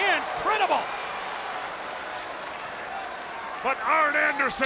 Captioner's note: spectators cheering and applauding